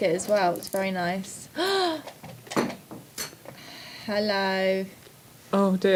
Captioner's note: gasp